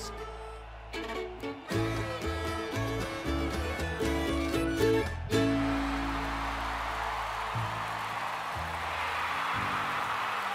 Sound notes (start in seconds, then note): 4.9 crowd cheering